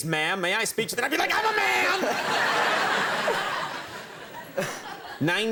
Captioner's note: crowd laughs